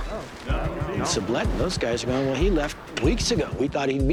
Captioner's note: all saying "no"